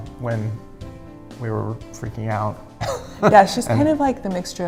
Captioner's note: laughs